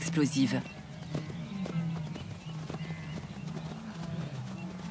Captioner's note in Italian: cinguettii